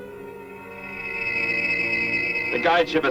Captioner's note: aircraft whirs